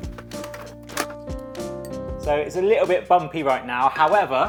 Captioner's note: objects clanking